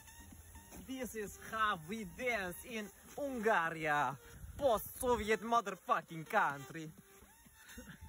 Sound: monkey noises

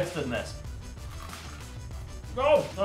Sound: crunch

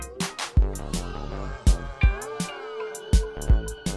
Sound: crowd gasps

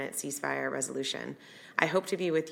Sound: none

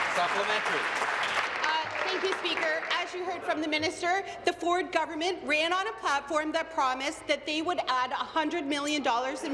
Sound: applause

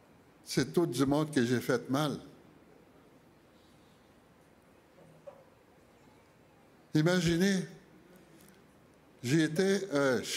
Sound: speaking French

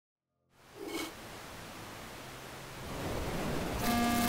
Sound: TV static

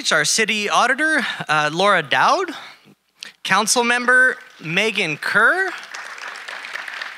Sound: audience applauding

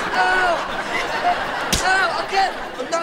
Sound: giggling

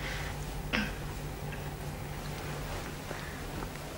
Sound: Netje clears throat

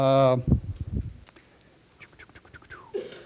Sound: pause

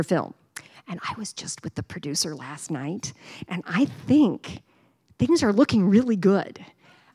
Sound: whispering

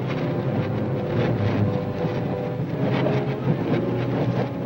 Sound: suspenseful music; train wheels squeaking

